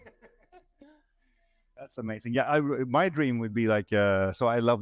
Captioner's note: all laughing